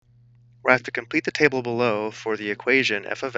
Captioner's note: voiceover